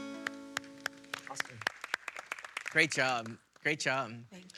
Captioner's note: audience claps